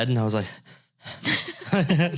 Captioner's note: confused panting; both laughing